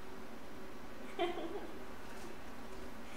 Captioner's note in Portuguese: Risos